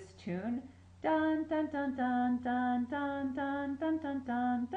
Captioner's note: mimics melody